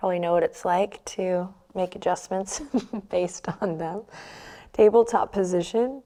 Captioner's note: chuckles